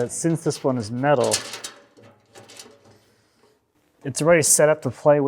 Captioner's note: cyclone clinking